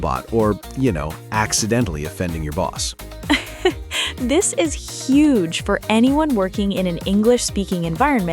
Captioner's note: laughs